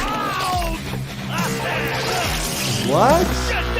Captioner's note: screaming